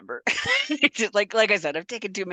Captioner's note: laughs